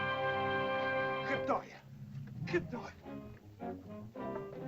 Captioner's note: dramatic music; Akhoba speaks in caveman language; dramatic whimsical music